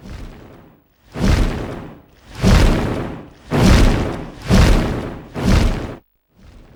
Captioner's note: large wings beating